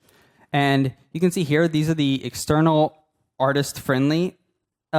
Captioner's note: none